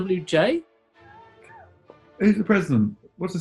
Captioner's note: sniggering